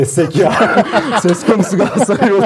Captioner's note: laughter